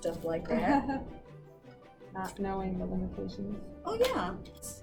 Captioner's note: laughs